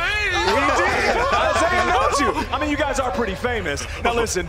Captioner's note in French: laughter